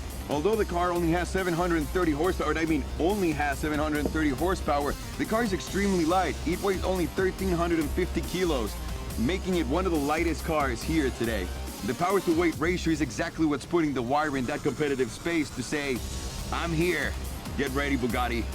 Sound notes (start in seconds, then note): none